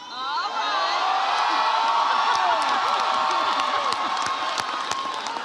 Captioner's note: audience cheers